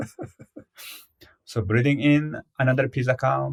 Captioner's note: laughs